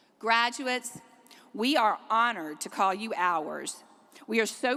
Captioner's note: none